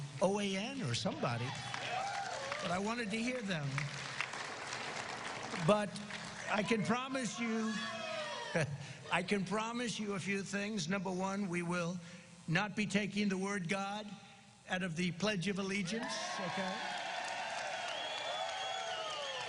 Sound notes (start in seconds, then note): 14.0 cheers and applause